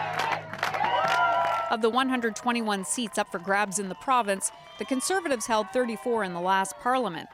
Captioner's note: cheers and Applause